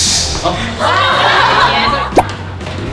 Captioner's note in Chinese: 哄堂大笑